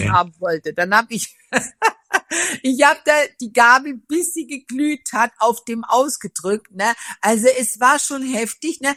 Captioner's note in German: gelächter